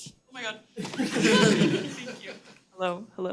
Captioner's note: attendees laughing